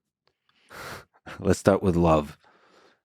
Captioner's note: Lex laughs